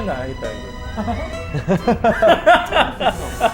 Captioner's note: hahaha